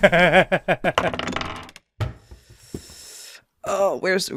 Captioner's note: laughter; dice clunks and clacks